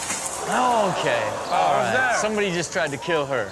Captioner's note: audience gasps